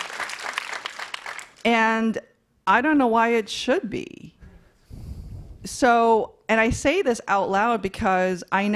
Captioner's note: applause